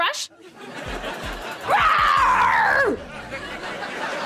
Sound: growling

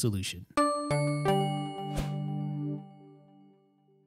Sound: chiming bells

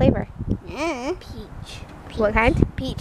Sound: makes uncertain sound

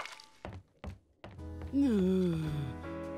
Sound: groaning

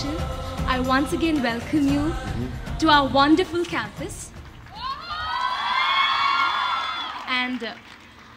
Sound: cheers

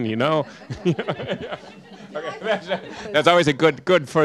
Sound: laughter

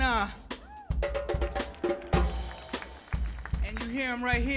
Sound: audience clapping and cheering

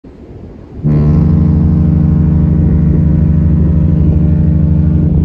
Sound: horn blows

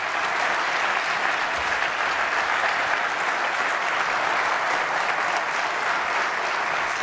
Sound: applause

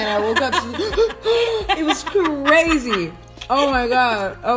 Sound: gasps

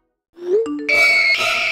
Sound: text message alert sounds for the third time

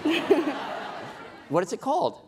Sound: laughing

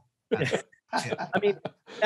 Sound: men laughing

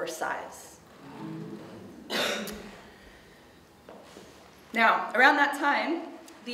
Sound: a few audience members make a low, disapproving sound

